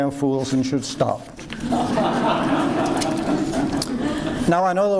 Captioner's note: audience laughs